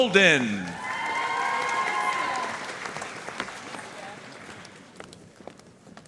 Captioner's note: audience cheering and applauding